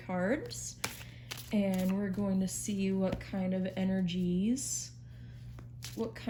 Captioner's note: shuffling